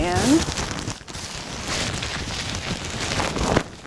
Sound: gown rustling

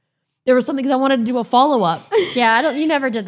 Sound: laughs

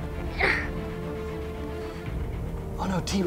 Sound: grunts

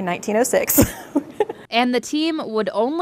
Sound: laughs

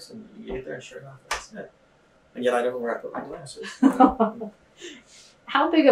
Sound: laughter

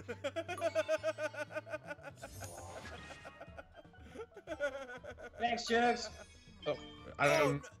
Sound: laugh

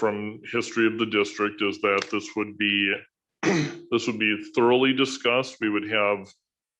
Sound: clears throat

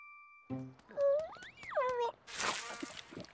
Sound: chirping

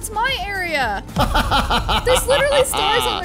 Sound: DJ laughing

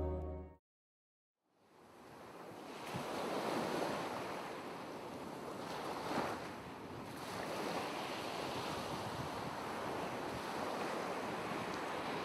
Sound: sound of waves

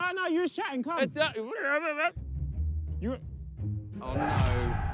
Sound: player stutters

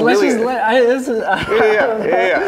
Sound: laughing

